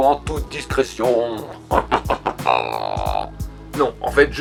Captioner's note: Evil's Laugh